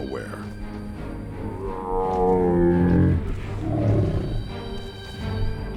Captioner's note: dinosaurs bellowing